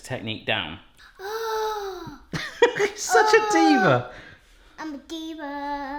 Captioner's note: laughs